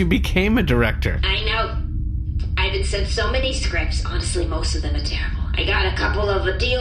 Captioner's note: laughing; hushed